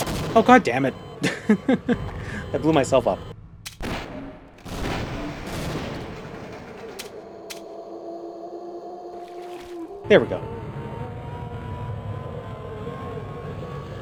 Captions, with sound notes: Oh goddammit! *laughing* I blew myself up. There we go.